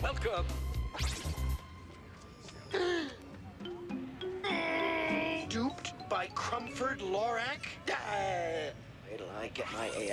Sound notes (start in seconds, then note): 3.5 gasps; 5.5 groans